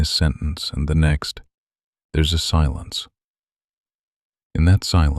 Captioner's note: short pause